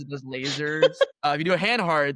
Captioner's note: laughter